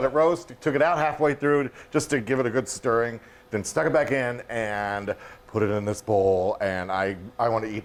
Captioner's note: none